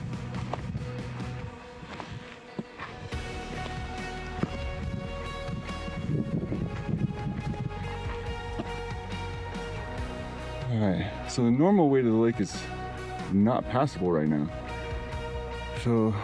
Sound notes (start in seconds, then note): 11.0 wind blowing